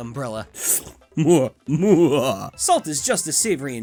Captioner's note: sips; wicked chuckle